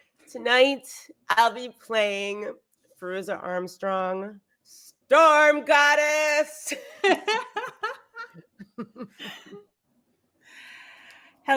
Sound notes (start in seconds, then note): 6.7 laughs